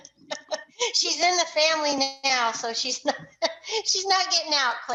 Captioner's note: laughing